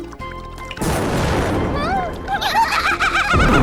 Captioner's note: explosion; laughing